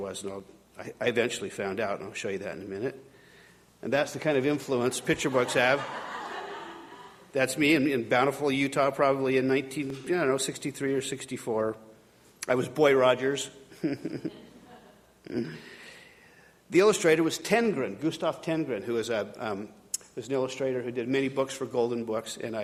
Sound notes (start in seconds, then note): 4.9 audience laughing; 13.7 chuckling